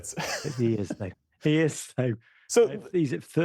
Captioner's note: laughter